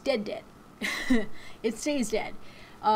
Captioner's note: chuckles